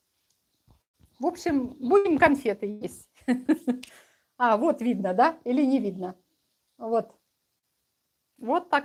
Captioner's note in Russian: смех